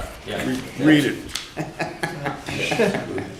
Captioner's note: laughter